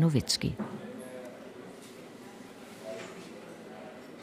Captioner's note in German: Stimmengewirr im Hintergrund